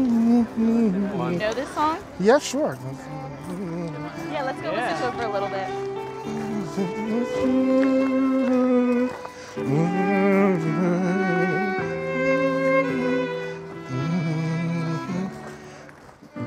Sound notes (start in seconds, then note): 0.0 hums; 3.8 hums; 7.1 hums